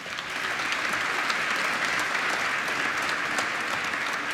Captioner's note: applause